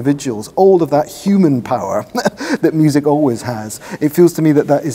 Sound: chuckles

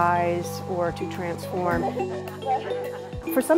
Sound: laughs

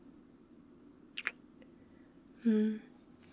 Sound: kiss

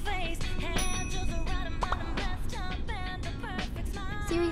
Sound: text message ringing

